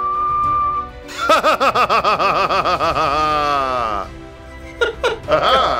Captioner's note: laughs maniacally